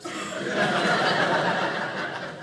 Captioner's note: audience laughing